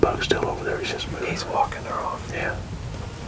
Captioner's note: whispering